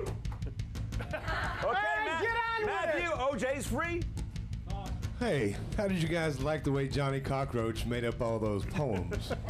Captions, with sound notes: TOMMY'S GARAGE ANNOUNCER, MATTHEW GUIDRY! [AUDIENCE CHEERING] - MATTHEW, OJ'S FREE.